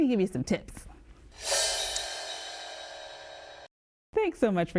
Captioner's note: gong ringing